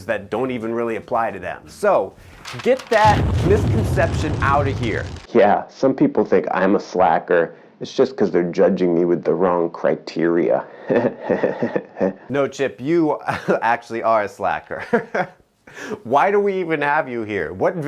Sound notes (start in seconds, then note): 2.9 fireball roars; 10.8 chuckling; 13.3 chuckles; 15.6 laughs